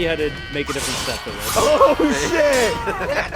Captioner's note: knife clanging